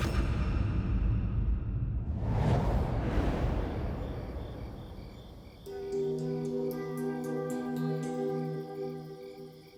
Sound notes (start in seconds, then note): 3.2 insects chirping; 5.1 mysterious music